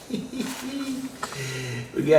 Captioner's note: laughs